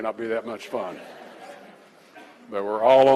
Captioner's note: laughter